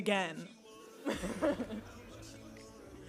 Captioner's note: all laughing